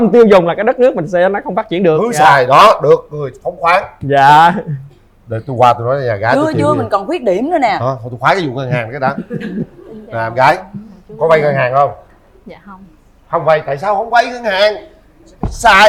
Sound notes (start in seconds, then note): 8.8 laughter